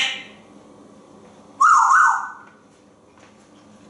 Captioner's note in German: whistling